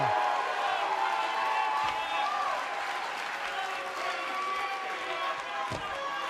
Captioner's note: cheers & applause